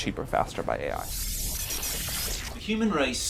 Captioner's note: electronic sounds